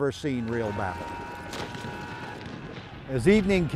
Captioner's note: soldiers shout